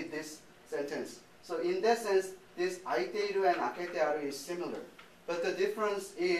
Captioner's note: speaking japanese